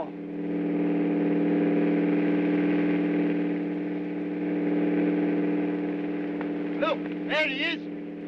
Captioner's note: aircraft rumbling